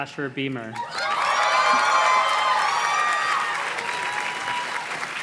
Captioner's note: audience cheers and claps